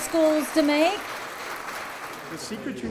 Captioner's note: audience applause